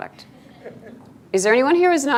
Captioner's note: students laughing